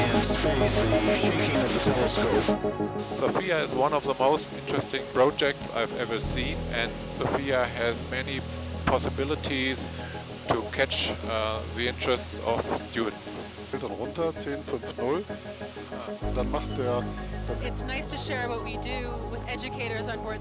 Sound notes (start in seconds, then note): 13.7 scientist speaking in German